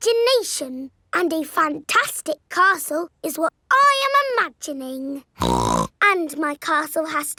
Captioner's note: snorts